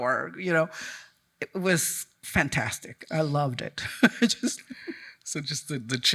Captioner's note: chuckles